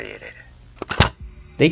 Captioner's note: cassette tape ejects